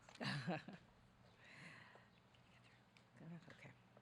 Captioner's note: laughing